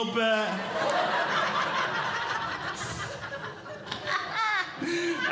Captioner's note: audience Laughing; laughs